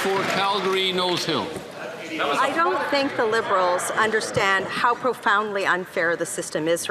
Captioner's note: some Applause